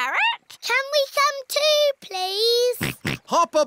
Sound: snorts

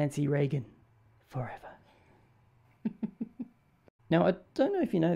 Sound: whispers

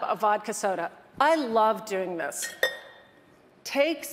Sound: metal clanging

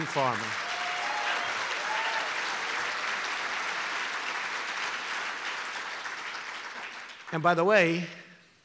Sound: applause

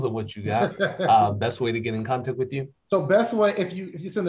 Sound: laughter

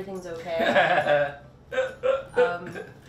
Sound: laughs

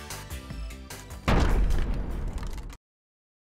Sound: crashing sound

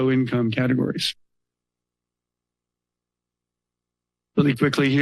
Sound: pause

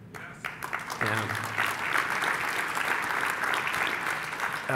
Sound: clapping

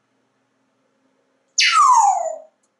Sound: loud whistle

